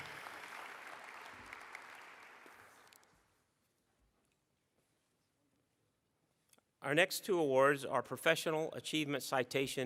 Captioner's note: applause